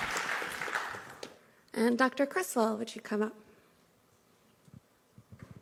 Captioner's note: applause